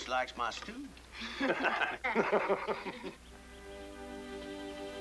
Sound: laughing

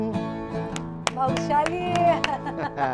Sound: both laugh

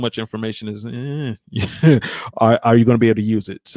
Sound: laughs

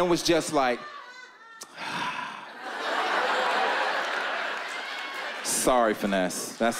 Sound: long sigh

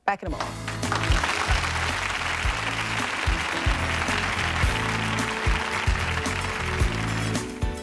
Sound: applause

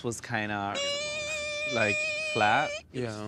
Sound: imitating flat line

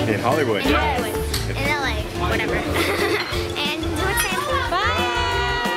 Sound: laughs

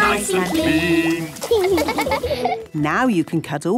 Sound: laughing

